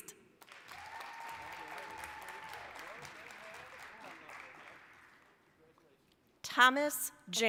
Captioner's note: applause